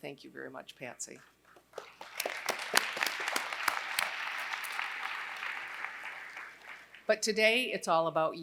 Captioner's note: applause